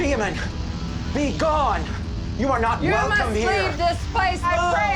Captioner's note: all together screaming